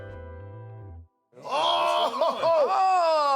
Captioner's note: chuckles